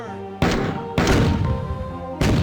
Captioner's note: pow-pow; boosh; BOOSHx2